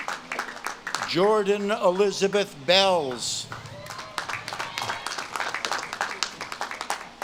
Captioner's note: audience claps and cheers